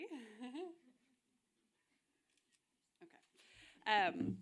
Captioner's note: giggling